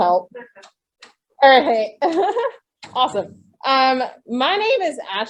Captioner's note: someone closes a door